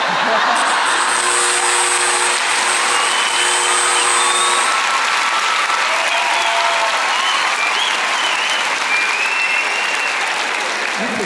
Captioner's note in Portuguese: campainha e aplausos